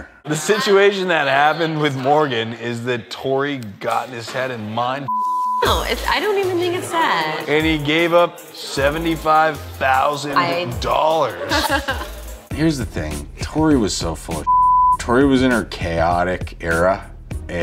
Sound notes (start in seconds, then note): 5.1 beeps; 11.2 contestant laughs; 14.4 beeps